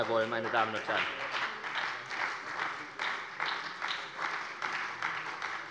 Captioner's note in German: Beifall bei der SPD